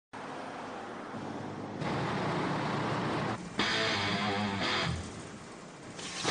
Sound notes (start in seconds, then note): 0.1 freeway traffic noise; 3.5 rock music